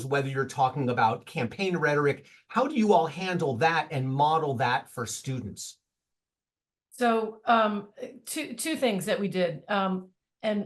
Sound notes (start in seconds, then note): none